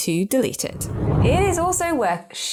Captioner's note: air whooshing